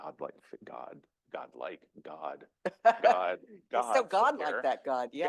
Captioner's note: laughs